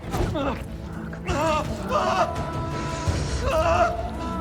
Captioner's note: Jacob screaming